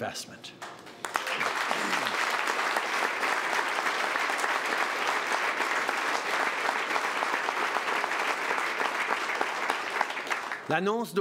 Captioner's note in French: Applaudissements